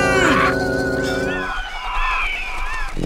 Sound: squawking of birds

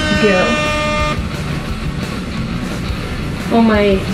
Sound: horns blaring

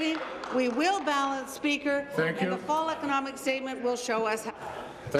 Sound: applause

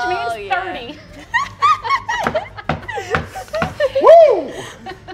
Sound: laughing; knocking on table

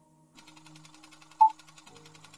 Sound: projector whirring; beeping

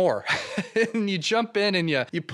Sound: laughs

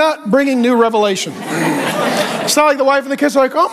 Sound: congregation laughing

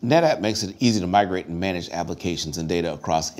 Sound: none

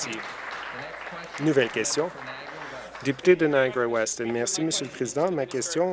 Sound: applause

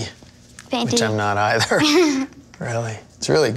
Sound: laughs

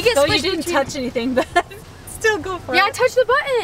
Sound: laughs

